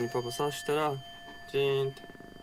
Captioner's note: bell rings